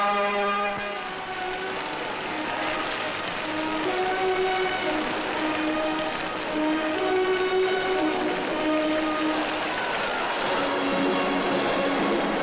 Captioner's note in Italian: Applauso